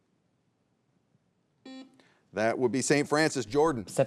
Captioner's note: buzzer beeps